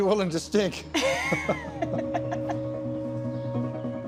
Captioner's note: both laugh